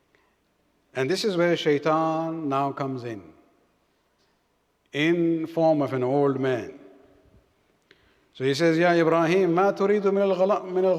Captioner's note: arabic